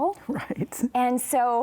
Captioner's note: chuckles